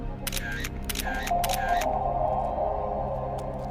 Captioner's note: camera clicking